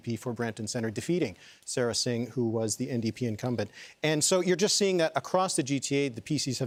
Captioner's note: none